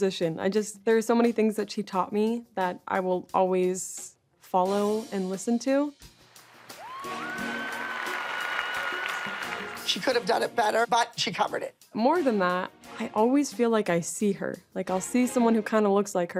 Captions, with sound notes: I just, there's so many things that she taught me that I will always follow and listen to. [cheering] She could've done it better but she covered it. More than that, I always feel like I see her. Like, I'll see someone who kinda looks like her